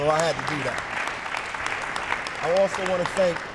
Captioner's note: applause